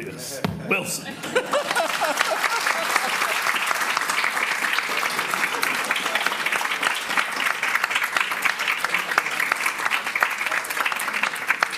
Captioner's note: audience clapping